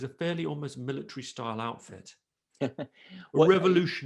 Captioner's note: chuckles